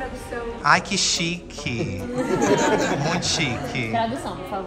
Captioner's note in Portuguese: risos